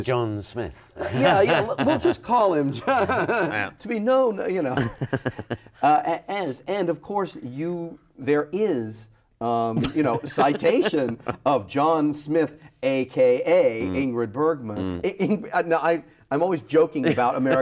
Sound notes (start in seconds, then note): 1.0 laughs; 9.7 laughs